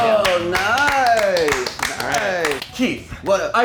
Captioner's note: movers clapping